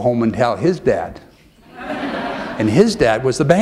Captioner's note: laughter